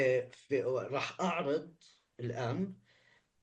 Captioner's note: speaking arabic